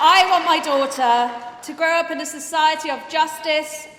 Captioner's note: applause